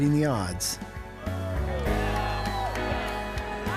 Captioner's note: exclaiming